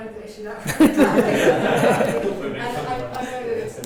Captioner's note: laughs